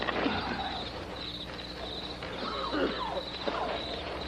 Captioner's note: coughing